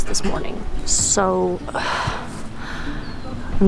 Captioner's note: sighs